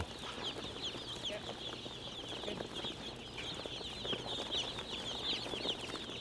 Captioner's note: chicks chirping